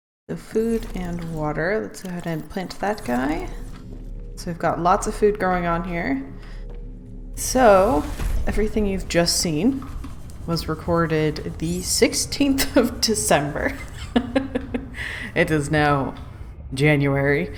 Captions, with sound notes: So food and water. Let's go ahead and plant that guy. So we've got lots of food going on here. So everything you've just seen was recorded the 16th of December *laughs* It is now January.